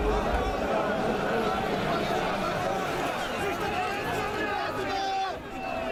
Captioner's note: crowd noise